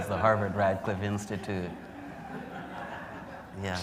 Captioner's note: laughter